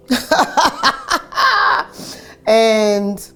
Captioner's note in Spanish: Ríe